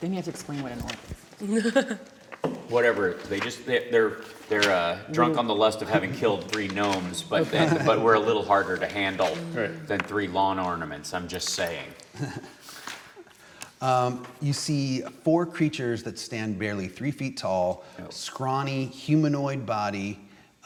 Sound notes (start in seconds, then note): 1.4 laughs